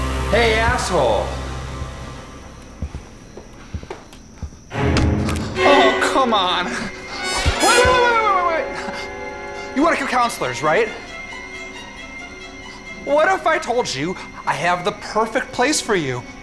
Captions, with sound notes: - Hey, asshole. (heavy footsteps) (tense music) Oh, come on. Wait wait, wait, wait, wait, wait, You wanna kill counselors, right? What if I told you, I have the perfect place for you?